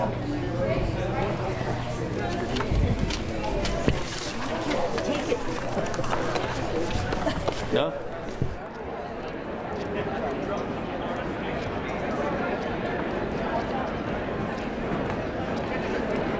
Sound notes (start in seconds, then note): 1.4 indistinct chatter